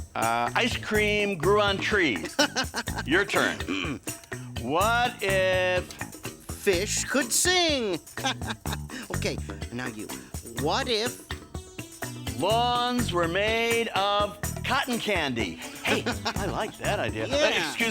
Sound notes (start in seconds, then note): 2.2 laughing; 7.7 laughing